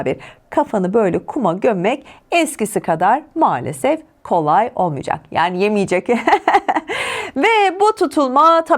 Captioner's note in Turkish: kahkaha